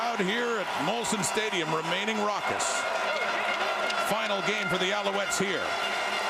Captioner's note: crowd Noise